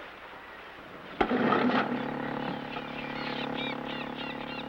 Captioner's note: motor starting